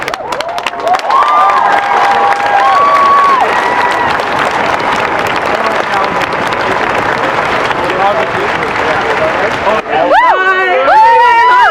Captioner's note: cheering and applause